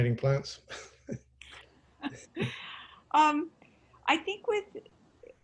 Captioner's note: laughing